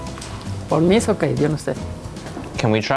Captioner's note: speaks in Spanish